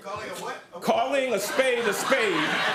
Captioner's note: laughter